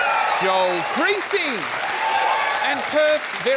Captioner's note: cheering and applause